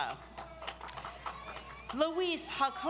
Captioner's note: audience applauds